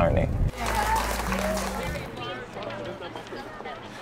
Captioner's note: clapping